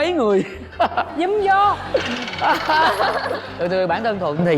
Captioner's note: laughing